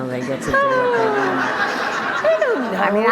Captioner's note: group laughter